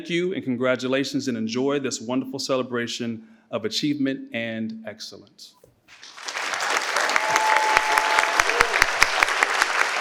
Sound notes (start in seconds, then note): 5.9 participants clap